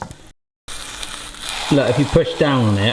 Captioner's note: pancake sizzles